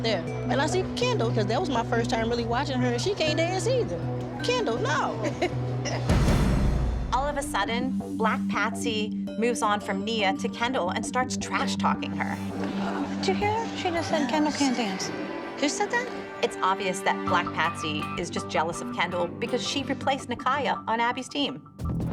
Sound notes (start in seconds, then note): 5.1 laughs